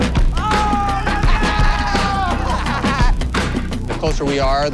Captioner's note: runners cheering